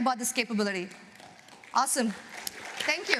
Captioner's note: applause